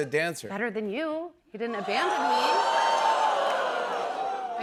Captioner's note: audience exclaims